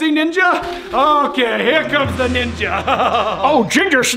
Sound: laughing

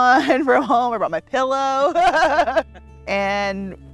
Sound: both laughing

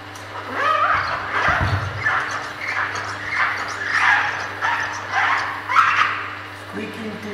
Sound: squeaking noises

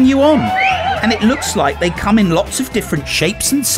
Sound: cheers

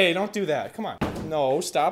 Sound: bang

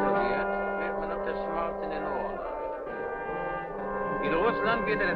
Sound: speaking in a foreign language

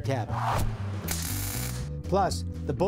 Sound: buzzing

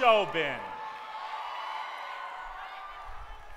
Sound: cheering

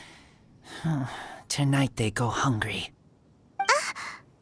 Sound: sigh

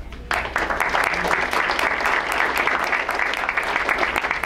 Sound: crowd applauds

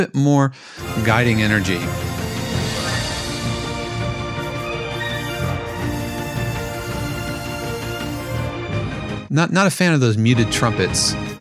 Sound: hums melody

